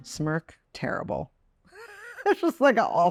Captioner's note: Chloe laughs